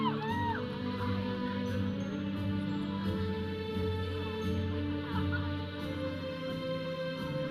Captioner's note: audience cheering; processional music; audience chattering